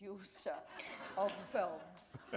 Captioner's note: laughter